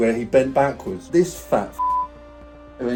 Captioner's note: beep